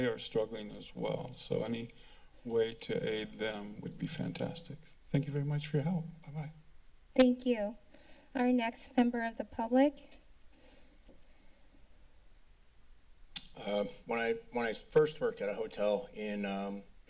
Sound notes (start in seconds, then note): 10.7 silence; 13.3 tongue clicking